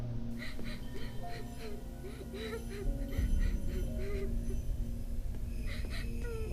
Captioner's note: gentle tense music; victim sobbing